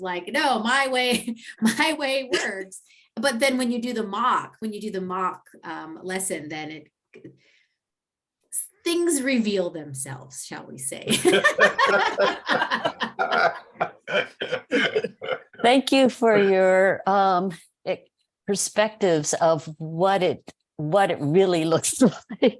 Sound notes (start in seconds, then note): 11.2 laughs